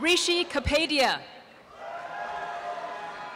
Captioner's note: applause and cheering